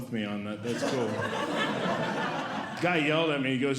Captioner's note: audience Laughing